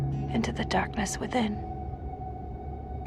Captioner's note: voiceover